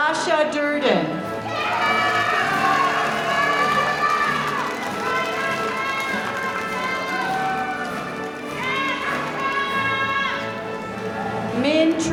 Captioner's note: applause